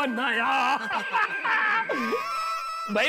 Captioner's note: laughing